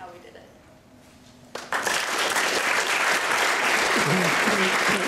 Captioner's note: applause